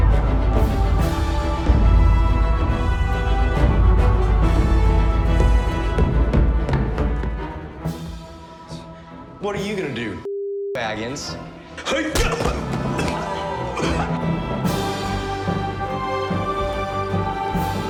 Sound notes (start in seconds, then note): 13.6 coughing; 14.5 inspirational music